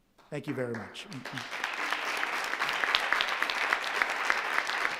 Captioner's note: audience applauding